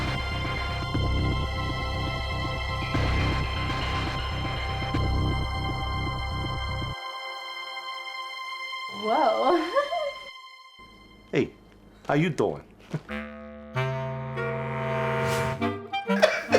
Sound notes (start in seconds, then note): 9.0 laughs; 13.0 quirky music; 16.1 robber and laugh